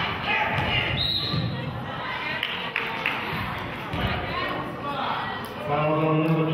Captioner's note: whistle blows; clapping